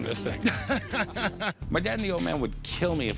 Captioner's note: laughs